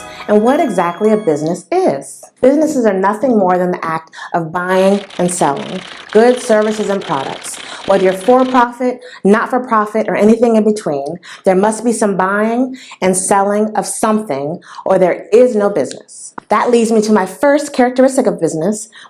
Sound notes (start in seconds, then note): 4.7 typing sound